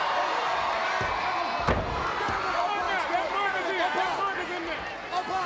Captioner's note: body thudding